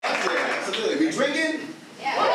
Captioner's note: audience clapping